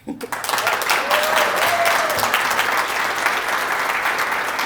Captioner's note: applause